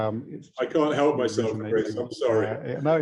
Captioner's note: laughs